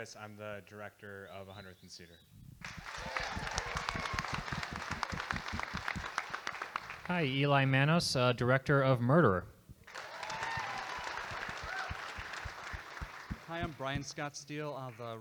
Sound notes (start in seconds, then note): 2.6 audience applauding; 9.8 audience applauding